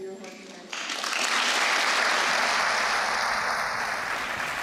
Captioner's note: applause